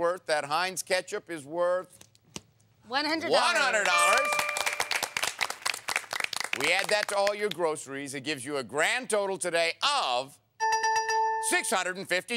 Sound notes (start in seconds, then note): 3.6 applause